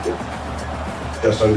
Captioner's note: crowd Noises